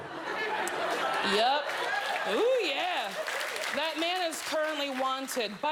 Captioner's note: laughter